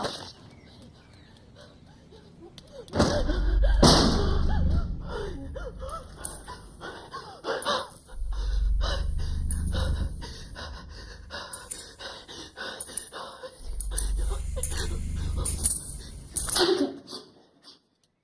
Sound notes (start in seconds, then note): 1.5 panting; 4.1 eerie music plays; 14.4 labored breathing; 17.1 sniffles